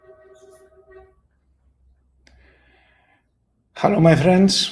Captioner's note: traffic hooting distantly